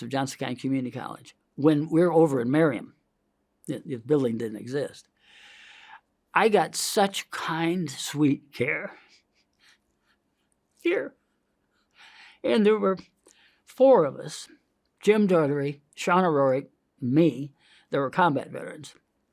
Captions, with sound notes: of Johnson County Community College. When we are over in Merriam, the building didn't exist. (inhales) I got such kind sweet care here, and there were four of us, Jim Daughtery, Shaun O'Rory, me, that were combat veterans.